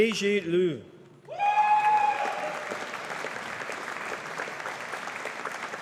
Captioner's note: audience applauding